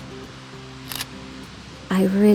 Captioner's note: camera shutter